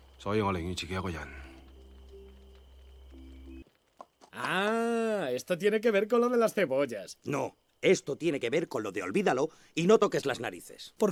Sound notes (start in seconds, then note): 3.9 castilian spanish